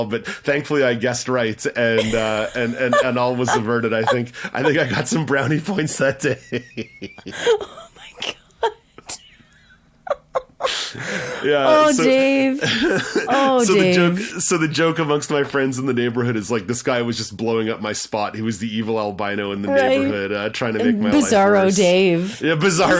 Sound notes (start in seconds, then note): 10.0 laughing